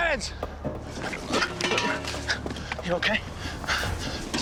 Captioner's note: water kettles clanging